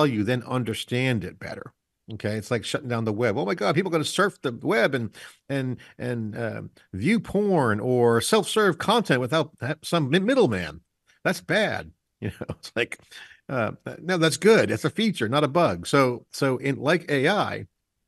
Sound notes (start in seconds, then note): 12.2 chuckles